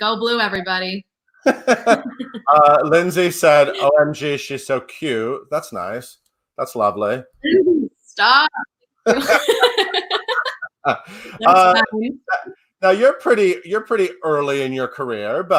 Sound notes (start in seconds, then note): 1.4 laughs; 9.0 laughs